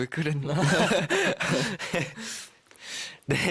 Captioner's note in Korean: 웃음